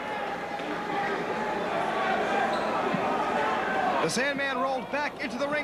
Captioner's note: crowd chatter